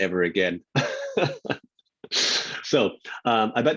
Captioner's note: laughing